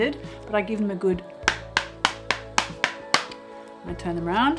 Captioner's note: tapping